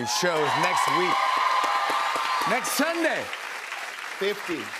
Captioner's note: cheers and applause